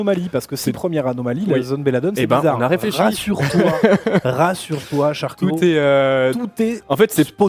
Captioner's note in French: rires